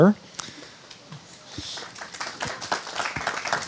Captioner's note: applauding